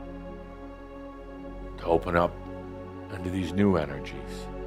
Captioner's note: none